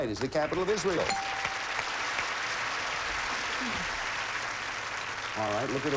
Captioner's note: audience applauding